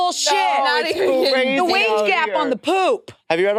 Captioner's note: participants chattering